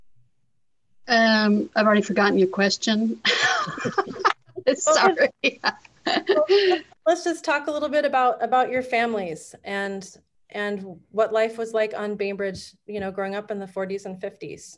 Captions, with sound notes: I've already forgotten your question. (Laughs) Let's just talk a little bit about about your families and and what life was like on Bainbridge you know growing up in the 40s and 50s.